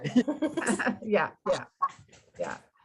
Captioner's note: chuckling